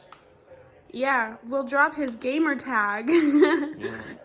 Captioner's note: laughs